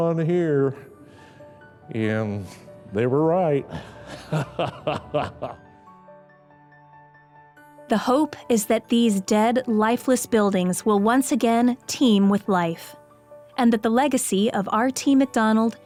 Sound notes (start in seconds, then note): 3.7 laughing